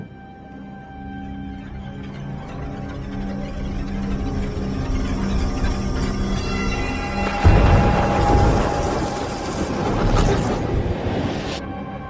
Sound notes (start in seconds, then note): 6.8 rain pouring